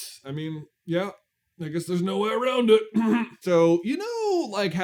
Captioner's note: clears throat